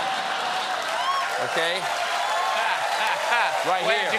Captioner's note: cheers and applause